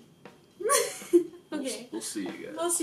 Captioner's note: laughs